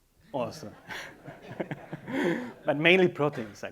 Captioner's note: laughing